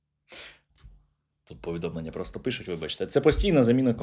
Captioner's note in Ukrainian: сопіння